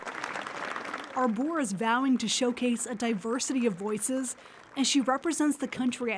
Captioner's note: applause